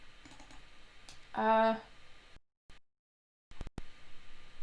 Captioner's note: mouse clicking